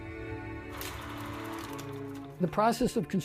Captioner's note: film projector reel clicking